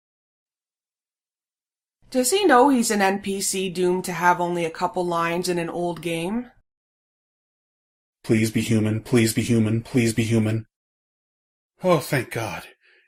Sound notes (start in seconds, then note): 8.6 pleading